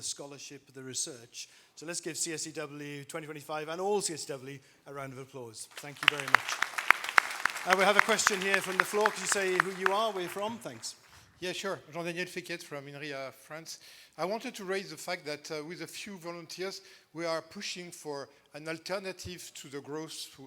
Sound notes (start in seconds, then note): 5.7 applause